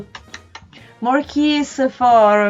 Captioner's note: kissing sounds